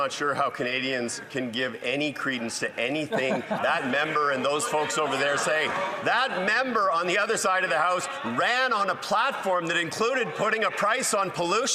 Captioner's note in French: voix de l'interprète